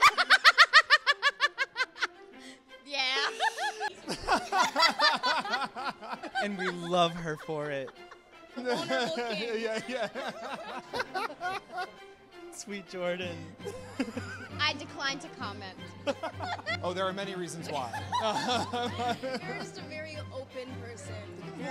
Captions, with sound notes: (both laugh) - Yeah. (both laugh) - And we love her for it. - Vulnerable King - Yeah, yeah. (both laugh) - Sweet Jordan. - I decline to comment. (both laugh) - Oh, there are many reasons why... (both laugh) - You're just a very open person.